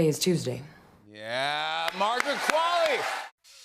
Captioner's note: cheers and applause